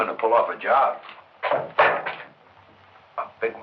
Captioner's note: gun clangs